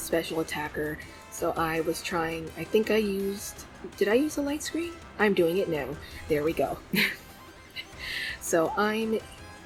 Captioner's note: laughs